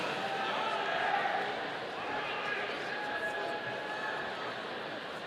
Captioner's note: audience cheering